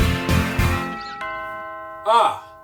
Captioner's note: doorbell rings